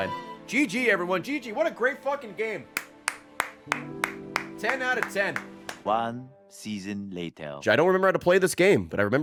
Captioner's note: claps